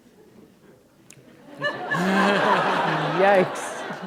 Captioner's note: laughter